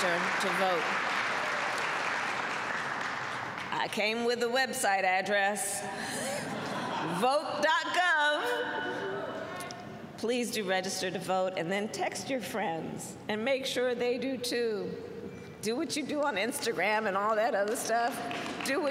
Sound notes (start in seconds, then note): 0.0 applause; 6.3 laughter; 17.6 applause